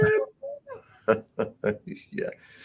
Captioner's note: laughs